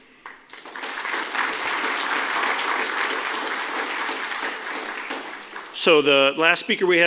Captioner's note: applause